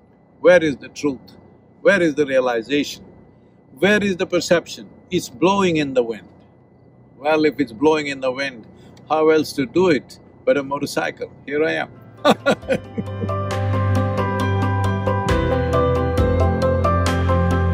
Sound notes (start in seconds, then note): 15.1 laughs